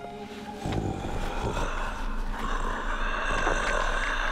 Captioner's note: mummy growling